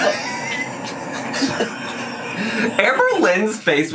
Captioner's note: laughs